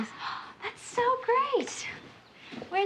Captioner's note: gasps